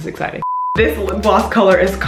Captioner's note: beep